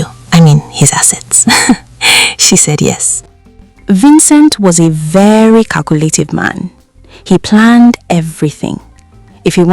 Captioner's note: laughs